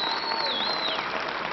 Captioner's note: applause